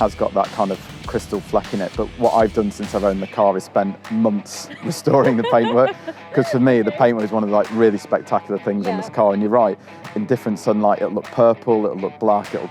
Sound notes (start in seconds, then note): 4.5 laughs